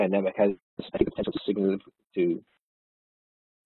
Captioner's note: audio distorts